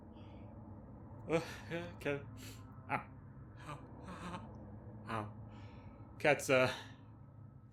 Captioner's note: sounds of pain